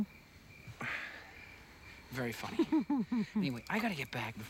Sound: chuckles

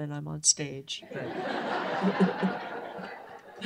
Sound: laughter

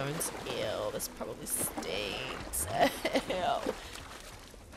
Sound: laugh

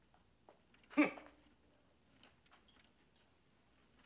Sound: scrooge scoffs

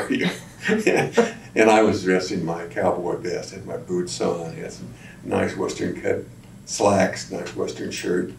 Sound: laughs

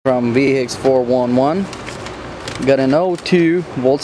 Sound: voiceover

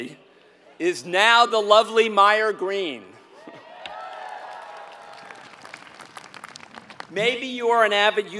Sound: applause

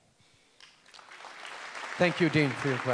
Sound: applause

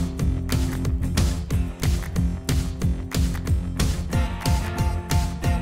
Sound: marker tone

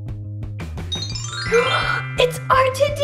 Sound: magical sound

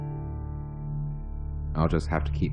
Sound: none

